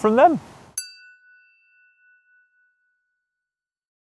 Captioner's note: chiming tone